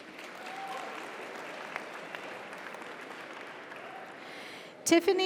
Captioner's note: audience cheers; audience applauds